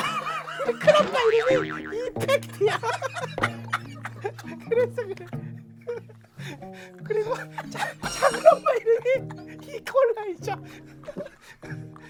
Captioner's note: hahaha; hahahaha